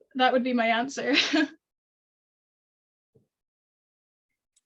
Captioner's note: chuckles